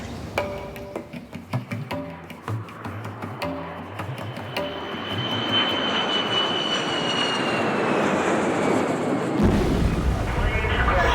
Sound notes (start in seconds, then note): 0.0 percussive music; 3.9 jet engine whining; 9.0 plane crashing